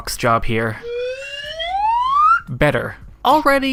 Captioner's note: slide whistle